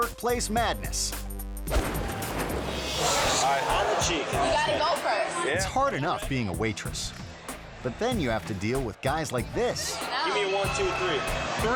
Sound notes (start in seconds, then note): 1.7 logo crashing